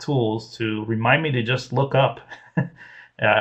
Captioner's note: laughs